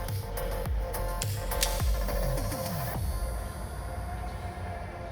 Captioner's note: metal clicking; pistol slide cocking